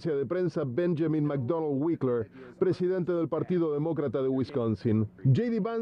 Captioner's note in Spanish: habla en ingés